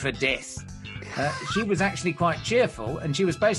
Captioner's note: laughs